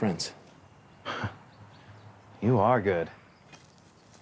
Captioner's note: chuckles